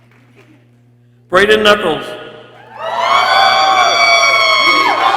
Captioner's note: people cheering